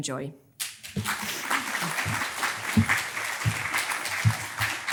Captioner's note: congregation clapping